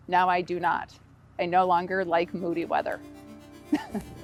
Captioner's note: dramatic music; laughs